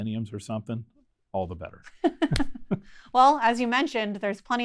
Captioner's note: laughing